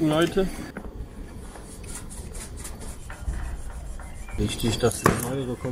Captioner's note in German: leises kratzen